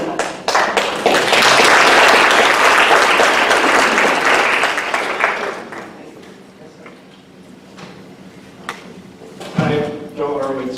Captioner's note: applause